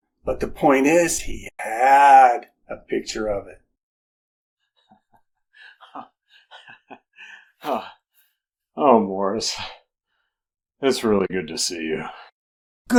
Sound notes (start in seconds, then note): 5.6 giggles